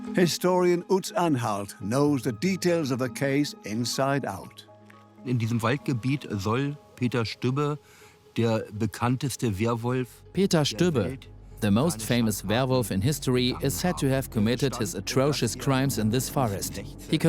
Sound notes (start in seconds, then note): 5.2 in German; 10.2 dubbed in English